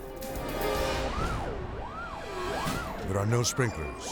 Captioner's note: siren blaring